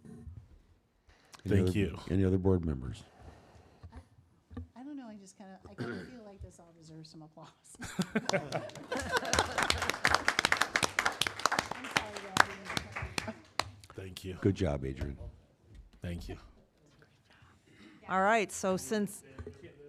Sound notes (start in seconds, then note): 6.1 applause